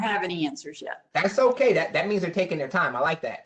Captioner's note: professor speaking